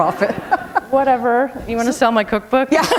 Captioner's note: chuckle